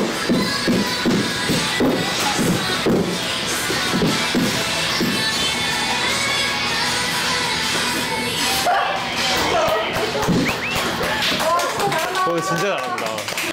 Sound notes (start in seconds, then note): 2.0 the sound of footsteps echoing; 10.4 round of applause